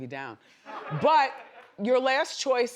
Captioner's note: audience laughs